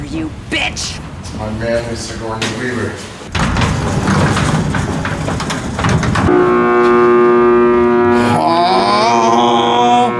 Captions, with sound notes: That's my man the Sigourney Weaver. (goose sounds)